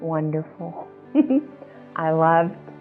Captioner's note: laughs